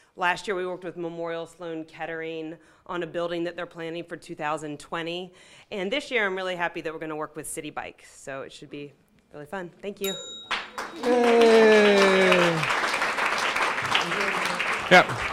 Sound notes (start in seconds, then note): 10.0 bell dinging; 10.4 audience applauding